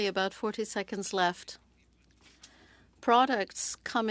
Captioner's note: speaking French